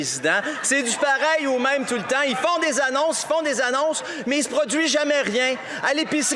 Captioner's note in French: rires